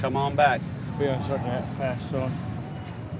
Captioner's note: slurring speach